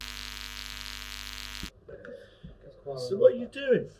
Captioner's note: electric buzzing